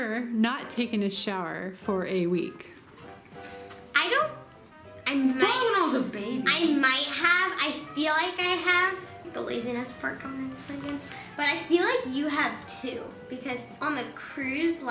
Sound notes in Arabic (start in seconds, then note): 9.3 يتمتم